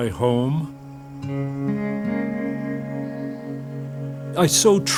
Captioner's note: bird chirps; serene music